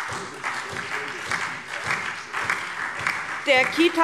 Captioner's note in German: Beifall SPD und Freie Demokraten